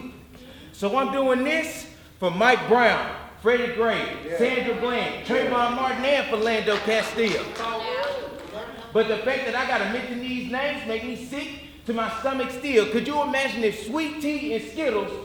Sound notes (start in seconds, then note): 8.1 audience agreeing murmers